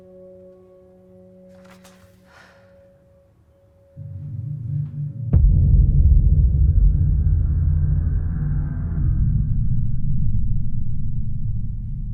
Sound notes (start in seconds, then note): 2.1 Robin sighs; 5.7 deep foreboding music